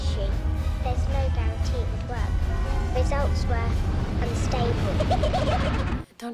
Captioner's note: giggling